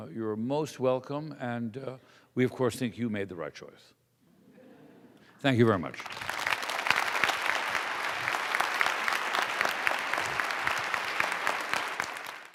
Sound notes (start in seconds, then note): 4.4 laughter; 5.8 applause